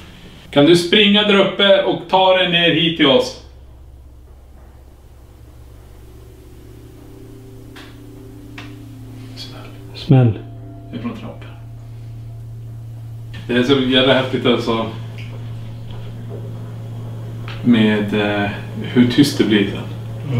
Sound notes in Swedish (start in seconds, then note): 7.4 smäll i huset